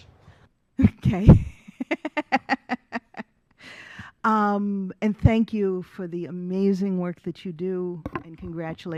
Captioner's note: laughs